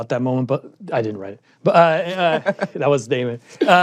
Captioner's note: laughs